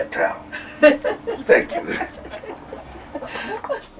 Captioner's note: laughs